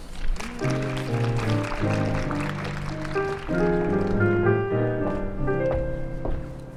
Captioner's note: applause and ♬♬ piano ♬♬